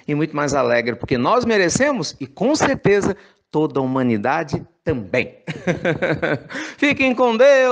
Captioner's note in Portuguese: risos